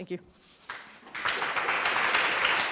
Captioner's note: applause